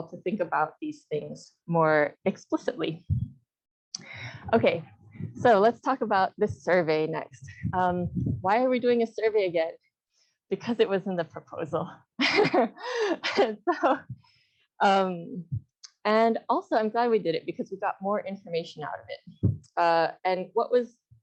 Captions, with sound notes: to think about these things more explicitly. Okay, so let's talk about the survey next. Why are we doing a survey again? Because it was in the proposal. [Laughter] And also, I'm glad we did it, because we got more information out of it. And what was,